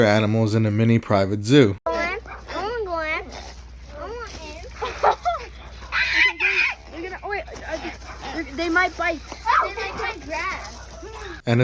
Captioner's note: child screaming